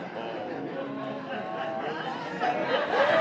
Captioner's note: laughter